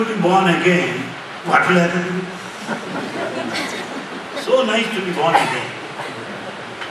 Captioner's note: laughter